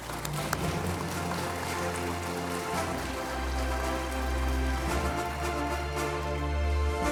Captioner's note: applause